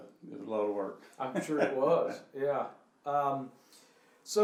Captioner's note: laughing